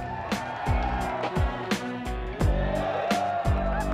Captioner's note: audience cheering